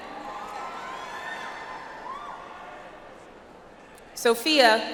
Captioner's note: audience applauds